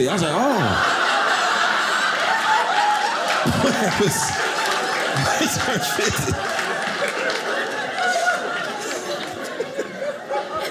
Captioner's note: audience laughing